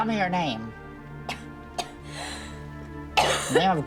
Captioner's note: coughing